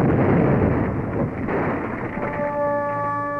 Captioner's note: sound of explosion